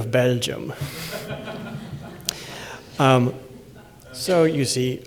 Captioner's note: laughter